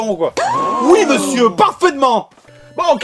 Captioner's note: crowd gasping